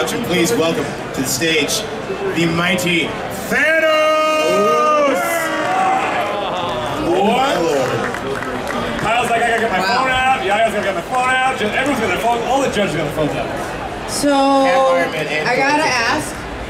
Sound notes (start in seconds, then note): 3.9 audience cheering